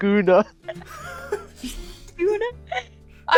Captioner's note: laughter